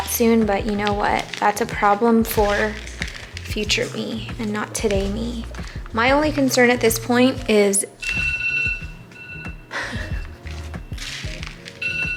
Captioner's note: phone alarm goes off